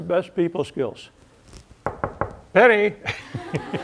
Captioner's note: knock, knock, knock; laughter